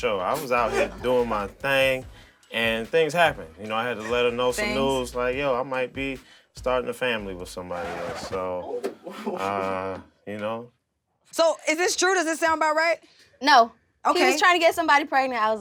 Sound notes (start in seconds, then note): 7.6 record scratching; 8.6 laughing